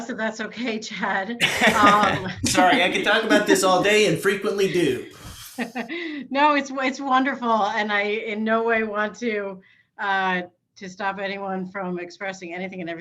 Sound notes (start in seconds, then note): 1.4 laughs